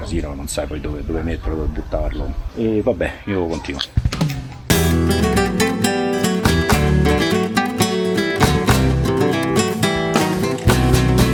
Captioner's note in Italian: Applauso